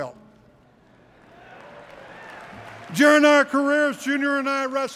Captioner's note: applause